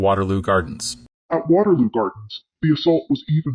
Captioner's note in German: verzerrt